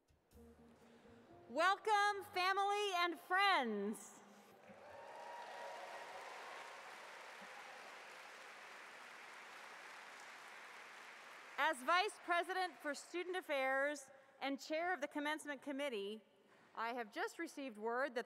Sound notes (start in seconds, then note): 6.1 cheers and Applause